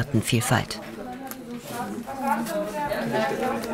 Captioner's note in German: Stimmengewirr